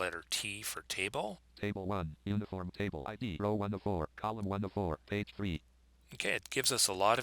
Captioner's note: synthesized speech